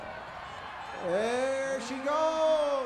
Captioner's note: crowd cheers